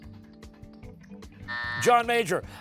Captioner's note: buzzer